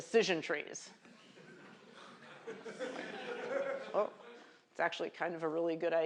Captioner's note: laughter